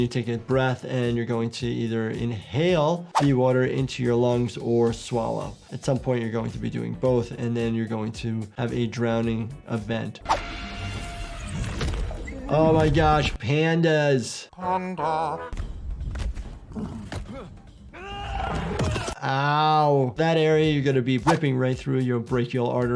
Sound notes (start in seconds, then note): 17.9 fighter screams